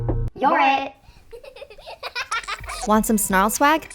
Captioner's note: giggling